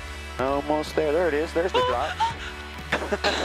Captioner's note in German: Beide lachen; Screams